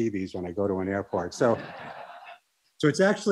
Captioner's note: laughter